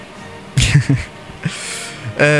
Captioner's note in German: lacht